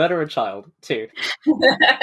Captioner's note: laughs